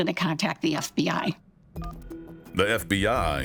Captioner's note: phone button beeping; phone ringing